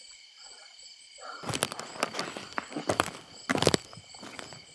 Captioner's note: insects chirping